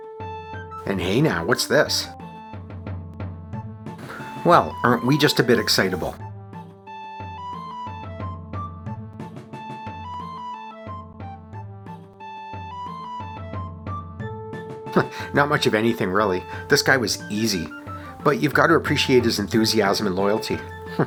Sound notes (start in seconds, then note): 14.9 chuckle